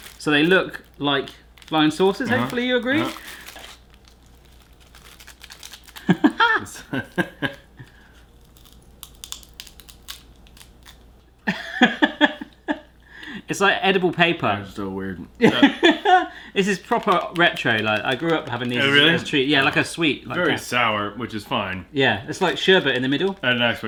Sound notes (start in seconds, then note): 6.0 laughter; 9.0 crunching sounds; 11.4 laughter